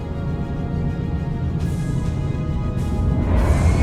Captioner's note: engine roars